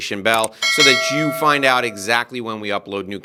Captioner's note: mouse clicking; bell ringing